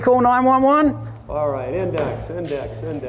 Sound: voiceover

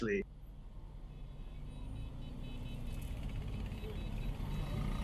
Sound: traffic sounds

